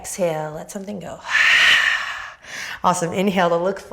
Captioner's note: exhales loudly